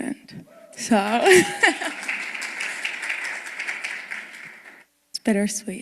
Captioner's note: applause and cheering